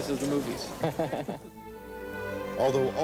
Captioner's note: both Laughing